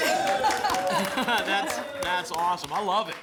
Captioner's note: laughter, applause, cheering